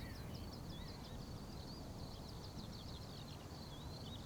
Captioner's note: birds chirping